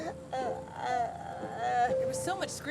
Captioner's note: Ms. Odell sobbing